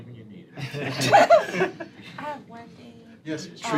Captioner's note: laughter